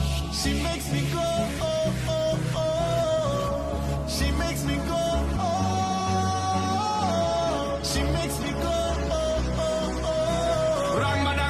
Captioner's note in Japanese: 効果音